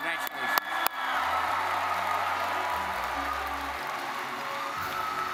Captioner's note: graduates cheer